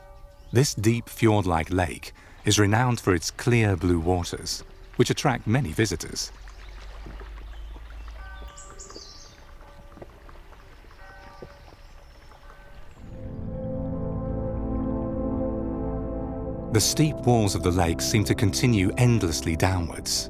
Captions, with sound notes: This deep fjord-like lake is renowned for its clear blue waters which attract many visitors. (bell ringing) (slow music) The steep walls of the lake seem to continue endlessly downwards.